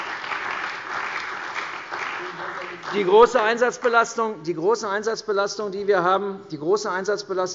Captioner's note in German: Beifall bei der CDU und dem BÜNDNIS 90/DIE GRÜNEN